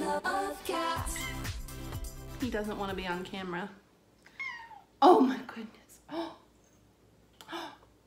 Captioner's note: pitiful meow